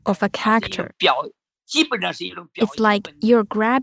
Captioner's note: speaking Mandarin